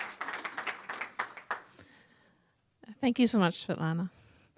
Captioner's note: applause